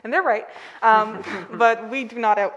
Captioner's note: all laughing